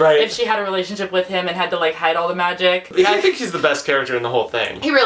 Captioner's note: laughs